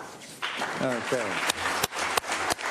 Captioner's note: applause